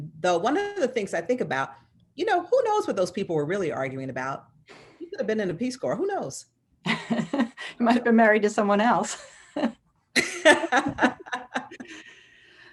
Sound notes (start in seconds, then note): 7.2 laughs; 10.2 laughs